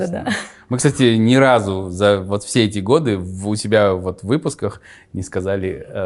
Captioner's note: laughs